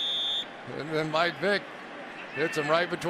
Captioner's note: whistles